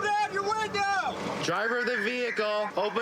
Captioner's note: using loudspeaker